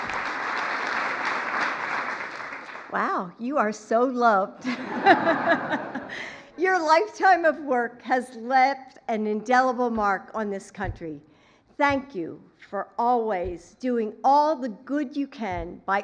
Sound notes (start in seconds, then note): 1.7 applause; 4.6 laughter